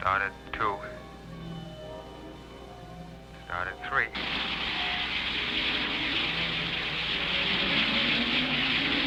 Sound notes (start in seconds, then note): 3.7 rocket firing